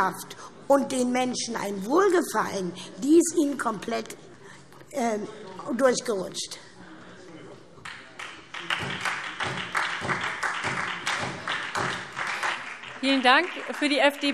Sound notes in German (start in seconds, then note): 7.8 Beifall SPD